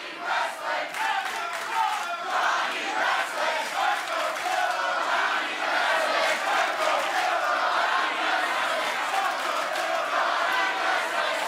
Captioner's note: fans chanting